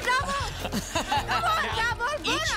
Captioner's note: laughter